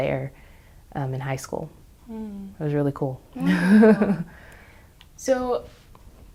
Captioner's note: chuckles